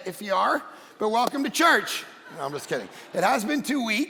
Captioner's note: congregation laughing